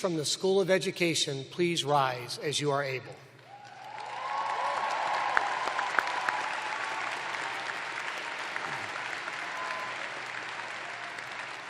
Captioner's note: cheers and applause